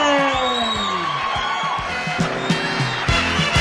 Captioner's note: screams